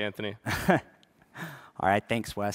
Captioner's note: chuckles